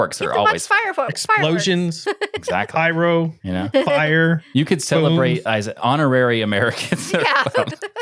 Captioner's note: laughing